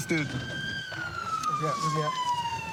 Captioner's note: siren wailing